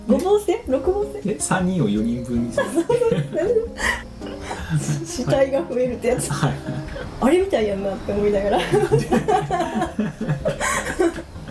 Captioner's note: laughs